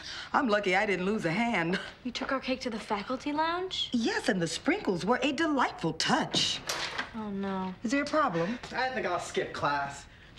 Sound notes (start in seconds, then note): 6.3 door opening